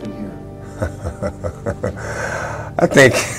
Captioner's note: γέλια